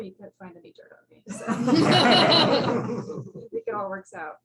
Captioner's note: laughter